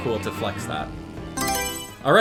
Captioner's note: Mario Selection Sound